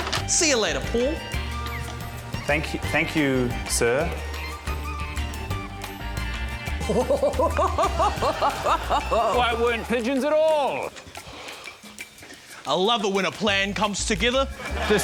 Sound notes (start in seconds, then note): 4.5 quirky woodwind music; 6.8 chuckles loudly